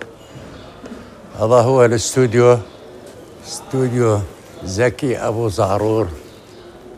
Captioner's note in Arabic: رجل يتحدث بلغة أجنبية